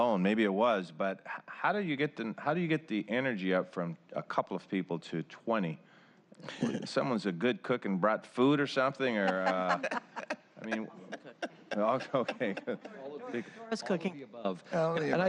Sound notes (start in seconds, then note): 7.0 laughter